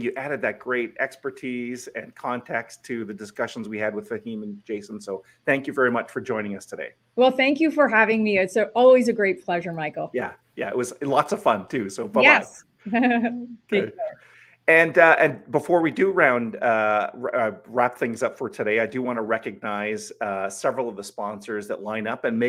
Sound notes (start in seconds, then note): 12.9 laughs